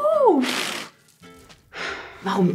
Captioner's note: snorts